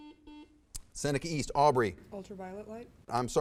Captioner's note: buzzer beeps